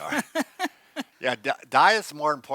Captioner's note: laughs